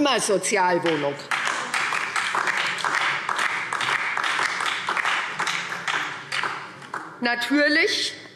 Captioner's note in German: Beifall SPD und DIE LINKE